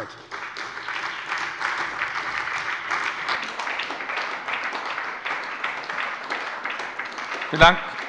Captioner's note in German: Beifall bei der SPD und der FDP